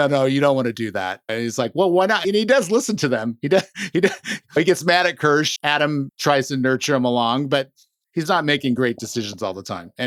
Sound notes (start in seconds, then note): 3.6 laughs